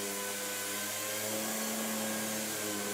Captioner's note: whirring